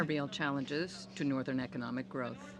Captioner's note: speaking French